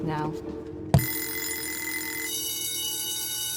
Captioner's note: alarm clock ringing; school bell ringing